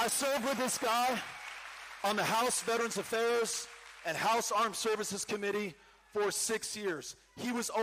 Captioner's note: cheering